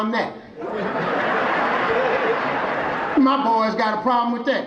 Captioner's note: audience laughing